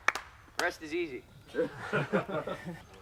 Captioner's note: voiceover